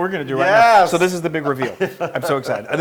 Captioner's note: laugh